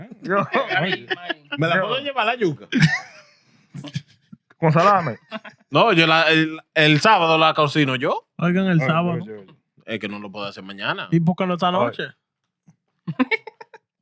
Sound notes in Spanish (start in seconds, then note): 0.0 Riendo; 1.4 Hablando en idioma extranjero